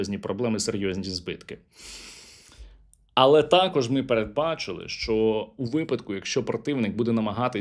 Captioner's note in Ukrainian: сопіння